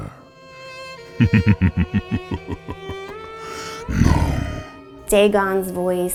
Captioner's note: laughing